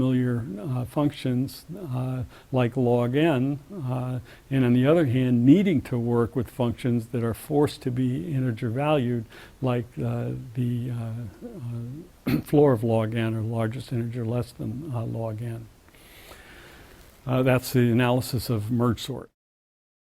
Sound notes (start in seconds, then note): 12.2 cough